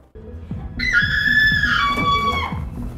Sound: woman screams

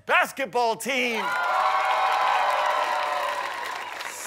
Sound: audience applause

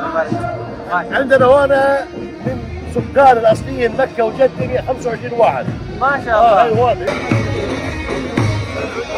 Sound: Arabic

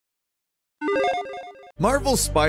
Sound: logo bleeping

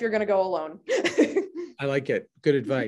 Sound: laughing

